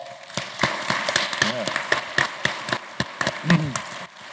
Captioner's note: applause